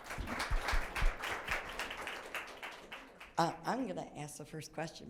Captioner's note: audience applauding